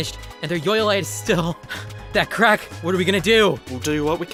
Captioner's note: heavy breathing